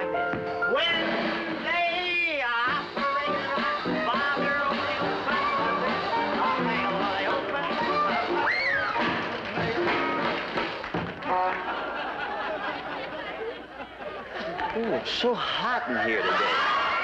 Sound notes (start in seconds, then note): 10.1 honk